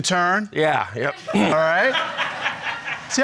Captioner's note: crowd laughing